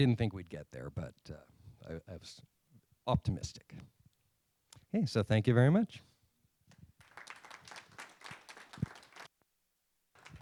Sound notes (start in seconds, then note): 6.9 applause